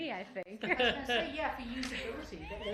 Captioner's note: laughter